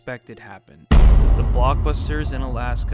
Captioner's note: loud thud